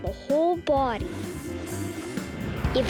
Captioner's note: whooshing sound